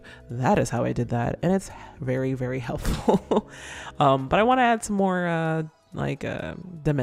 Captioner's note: laughs